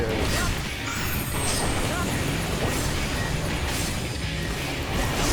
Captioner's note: explosions